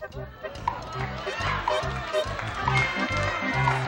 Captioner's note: cheering